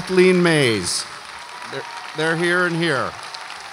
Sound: audience applauds and cheers

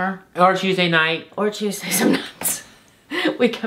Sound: laughs

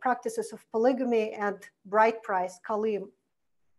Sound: foreign language

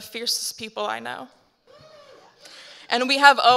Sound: audience member cheers

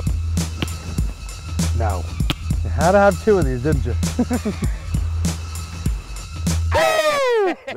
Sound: laughs

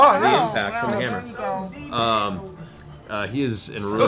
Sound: pained

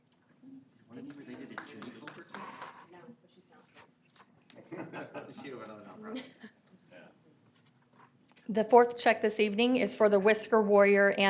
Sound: applause

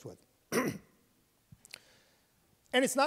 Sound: clears his throat

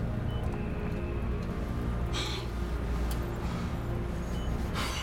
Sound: exhales heavily

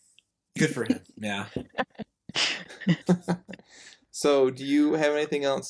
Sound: laughs

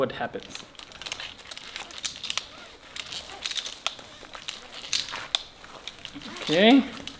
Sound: rope rasping

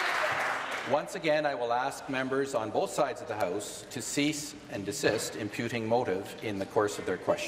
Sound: applause

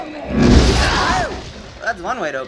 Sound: crash!; Mia growls

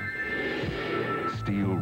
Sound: whoosh

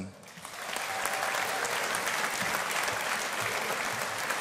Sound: audience applauding

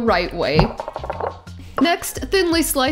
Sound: bowl clattering

